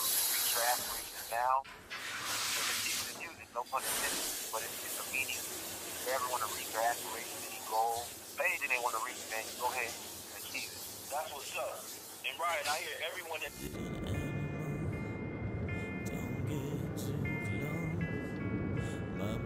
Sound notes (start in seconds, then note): 1.3 curtains clatter; 2.1 water splashes; 13.4 soft rock music